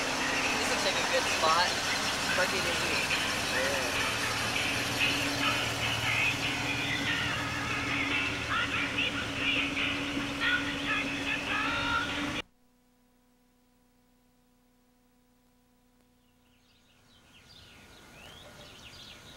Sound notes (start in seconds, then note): none